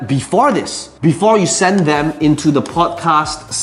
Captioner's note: tapping marker